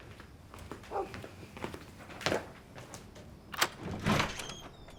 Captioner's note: dog barks